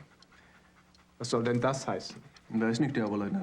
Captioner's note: speaking german